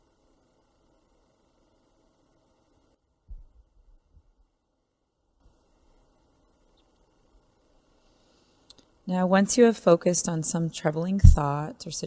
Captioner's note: silence